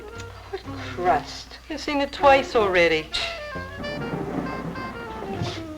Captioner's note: scoffing